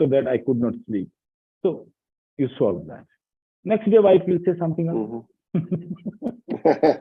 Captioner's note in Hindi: हँसी